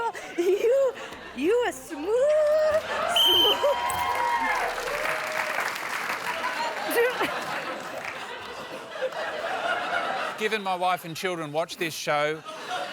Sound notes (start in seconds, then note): 3.1 whistle blows; 6.2 laughter